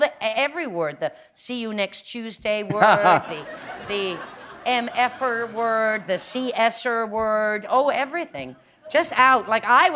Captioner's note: laughter